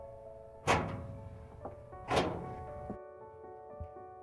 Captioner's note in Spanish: puerta abriéndose